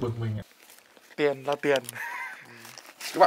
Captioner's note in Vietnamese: cười